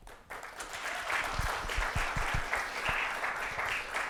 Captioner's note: audience applauding